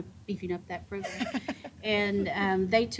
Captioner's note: chuckling